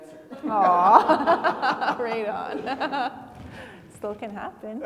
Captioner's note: everybody laughing